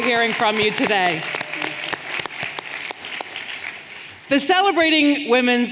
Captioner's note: everyone applauding